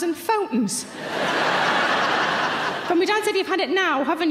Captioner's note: audience laughs